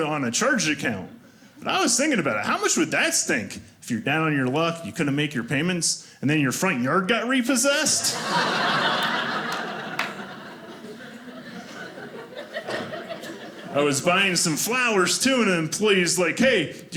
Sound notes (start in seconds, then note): 7.9 audience laughing